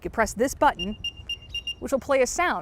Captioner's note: AirTag beeps